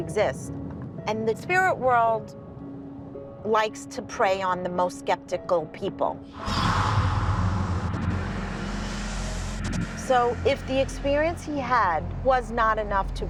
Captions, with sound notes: And the spirit world likes to prey on the most skeptical people. [wraith whispering] So if the experience he had was not enough to break him down,